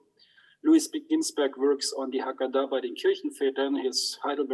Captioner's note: speaks in foreign language